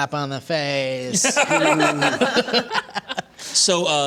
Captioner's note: laughter